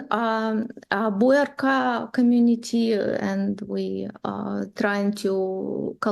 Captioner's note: foreign language